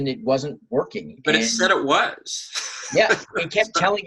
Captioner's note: laughing